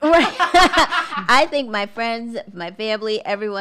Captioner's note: laughs